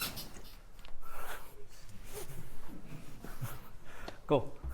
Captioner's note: laughs